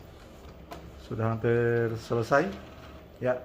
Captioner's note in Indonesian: suara mesin printer